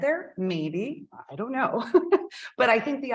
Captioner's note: chuckles